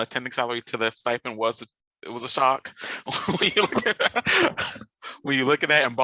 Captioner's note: laughs